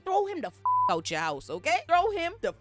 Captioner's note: beep